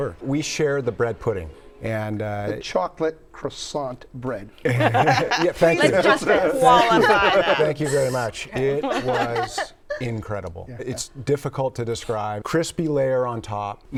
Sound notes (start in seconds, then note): 4.6 laughs